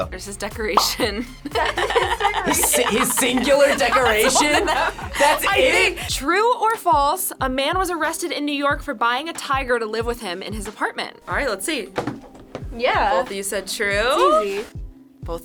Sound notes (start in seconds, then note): 0.8 both laugh